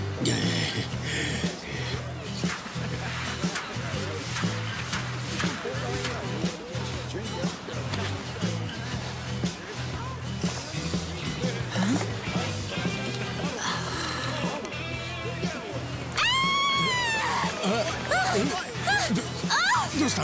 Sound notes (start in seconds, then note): 2.9 blues music playing; 13.4 exhales; 15.9 woman screams